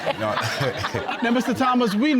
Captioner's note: all laughing